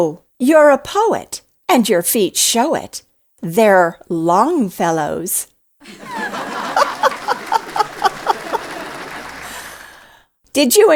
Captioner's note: laughter and applause